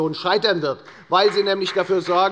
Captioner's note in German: Beifall bei der FDP